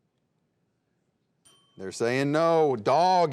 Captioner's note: bell ringing